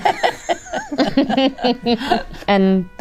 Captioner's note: Danny laughs; Rhea laughs; laughs